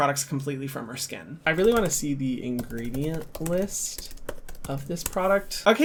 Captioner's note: typing